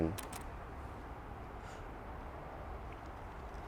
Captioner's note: clicking